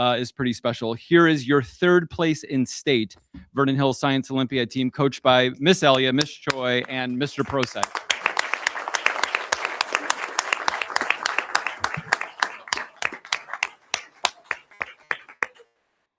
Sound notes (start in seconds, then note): 8.5 audience applauding